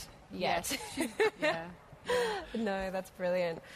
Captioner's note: laughter